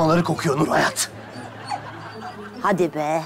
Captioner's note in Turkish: Gülme efekti